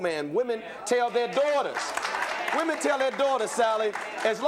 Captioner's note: applause